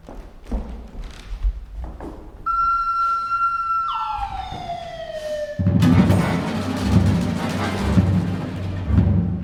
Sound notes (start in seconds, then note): 2.5 cannonball whisling through the air; 5.6 explosion